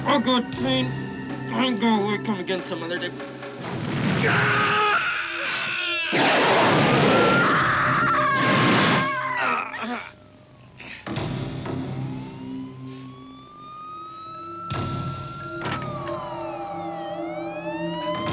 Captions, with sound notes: Oh, God. The pain. I'm gonna wait and come again some other day. Aaaaaaaaaaa! [flames blast] [Lisa screams] [police siren]